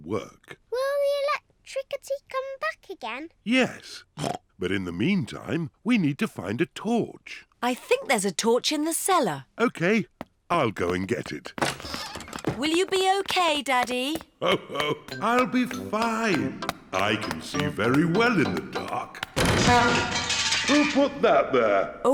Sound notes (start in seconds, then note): 14.4 laughs; 19.3 crashing